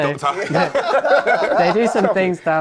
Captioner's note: laughing